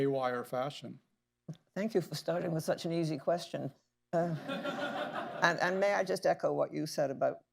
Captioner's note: laughter